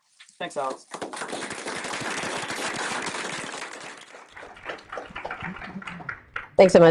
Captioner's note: applause